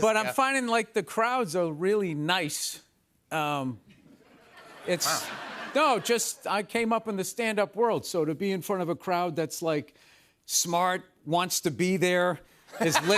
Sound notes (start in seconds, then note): 4.0 laughter; 12.7 laughter